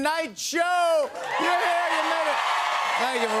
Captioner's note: cheers and applause